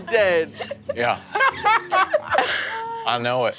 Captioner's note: laughing joyfully